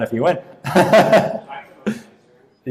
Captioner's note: laughing